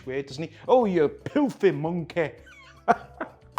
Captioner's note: chuckles